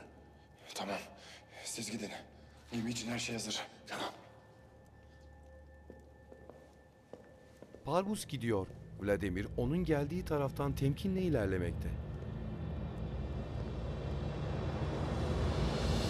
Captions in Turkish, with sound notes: Tamam, siz gidin. Benim için her şey hazır. Tamam. (Ayak sesi) (Müzik - Gerilim)